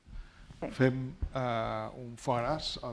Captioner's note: speaking spanish